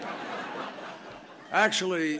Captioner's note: laughter